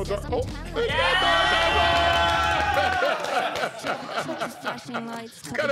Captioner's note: group cheering and laughing